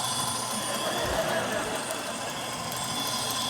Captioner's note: laughter